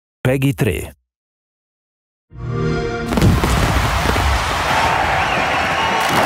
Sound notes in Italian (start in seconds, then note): 2.3 xbox sound; 2.4 sound effect